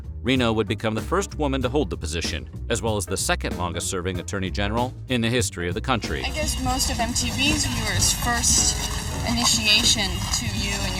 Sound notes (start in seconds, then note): none